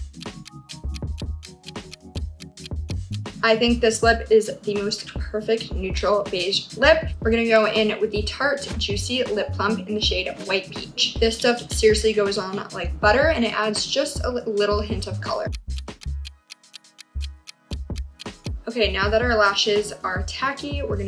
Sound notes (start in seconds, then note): 0.0 clock ticking; 15.2 clock ticking